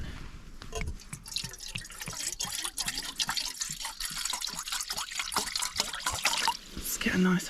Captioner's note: glug glug splosh